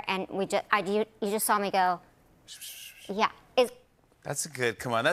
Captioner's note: imitates whispering